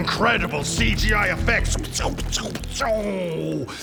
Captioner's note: equally good sound effects